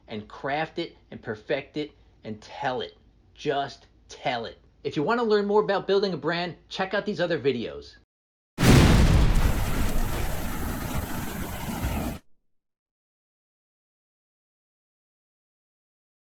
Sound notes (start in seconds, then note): 9.3 air whooshing